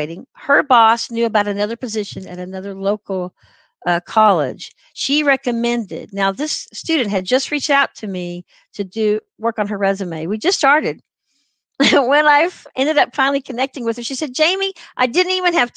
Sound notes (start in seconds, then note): 11.8 laughter